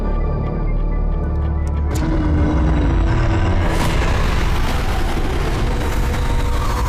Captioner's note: intense ominous music; monster growling